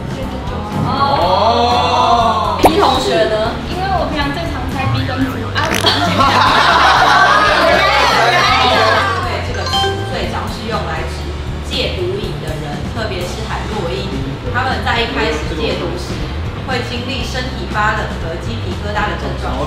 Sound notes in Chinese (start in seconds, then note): 5.5 哄堂大笑